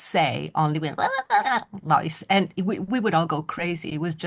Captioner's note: blabbers